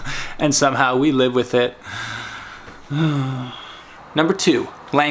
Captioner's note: sighs